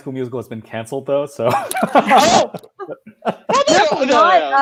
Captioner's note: laughing